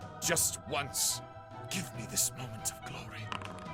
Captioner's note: whispers